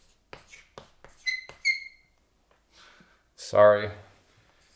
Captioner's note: chalk squeaking